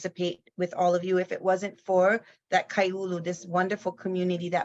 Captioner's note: speaks in foreign language